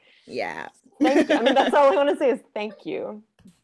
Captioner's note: laughing